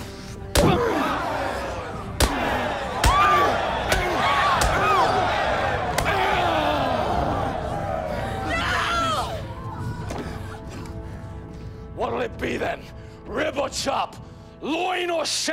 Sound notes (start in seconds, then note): 0.1 crowd exclaiming; 2.2 screaming